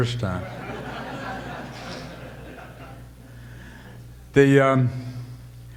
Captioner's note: audience laughter